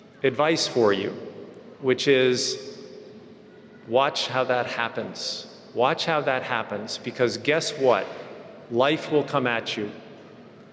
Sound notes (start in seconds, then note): none